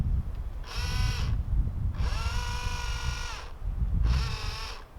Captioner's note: motor whirring